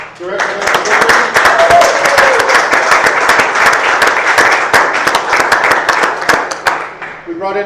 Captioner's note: applause